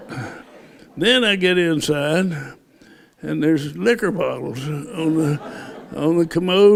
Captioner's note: laughter